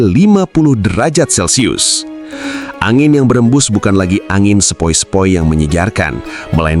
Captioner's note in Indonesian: terkesiap